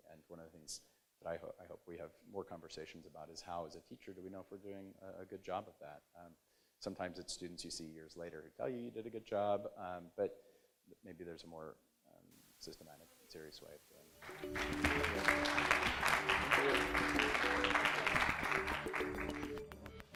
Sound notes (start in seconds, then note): 14.2 audience applauds; 14.2 bright music